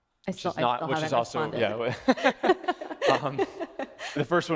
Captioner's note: laughing